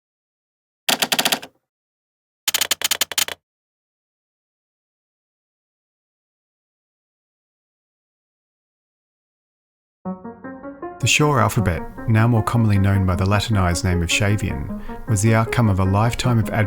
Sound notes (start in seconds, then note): 0.9 sound of backspaces; 2.4 sound of keystrokes; 10.0 energetic classical music